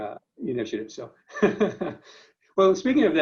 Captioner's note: laughs loudly